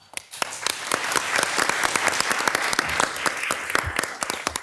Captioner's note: all applauding